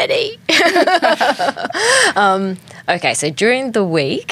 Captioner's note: everyone laughing